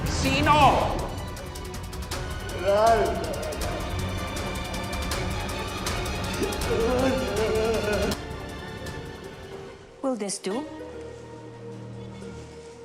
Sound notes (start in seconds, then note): 3.7 tense music continues; 6.4 edgar sobbing